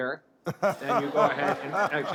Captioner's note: laughter